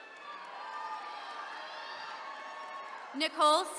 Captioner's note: attendees cheering